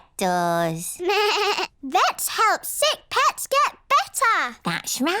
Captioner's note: bleats